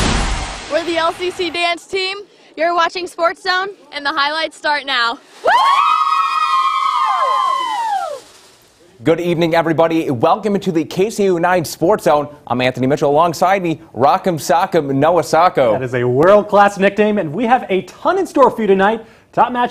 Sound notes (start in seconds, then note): 7.1 cheering